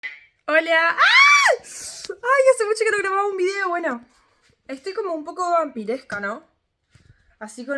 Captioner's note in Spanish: grito